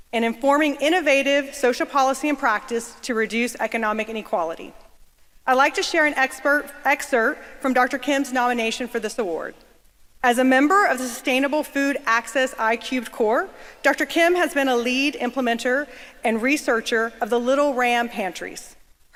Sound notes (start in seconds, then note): none